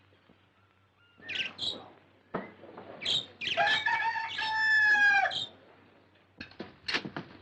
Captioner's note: bird singing and cockerel crowing